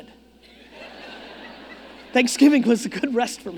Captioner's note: audience laughing